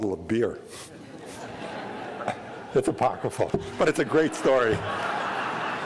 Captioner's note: laughter